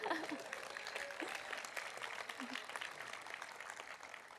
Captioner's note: audience applauding